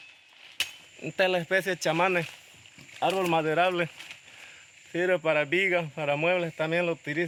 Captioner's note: speaking in foreign language